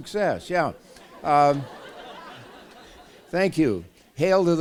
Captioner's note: laughter